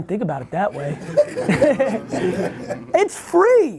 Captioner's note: laughs